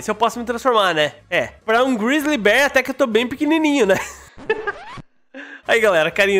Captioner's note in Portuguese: risos